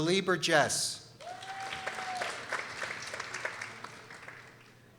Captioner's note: people applauding